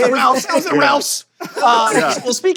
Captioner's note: laughter